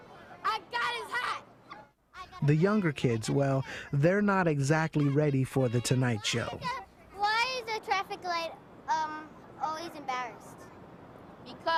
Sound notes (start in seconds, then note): 2.5 voiceover